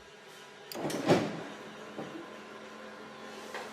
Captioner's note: A clunk, then a whirring sound